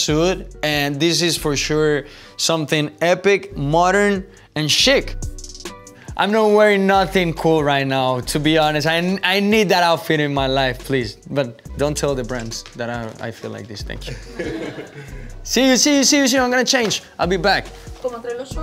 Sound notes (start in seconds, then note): 14.0 laughter